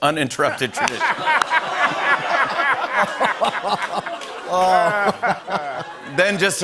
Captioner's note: laughter and applause